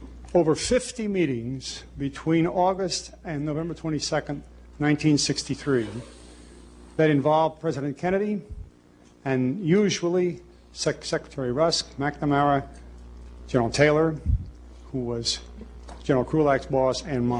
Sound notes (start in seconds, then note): none